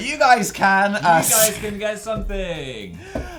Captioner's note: laughing